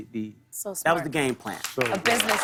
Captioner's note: cheers and applause